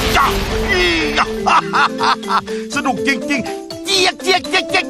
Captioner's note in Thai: หัวเราะ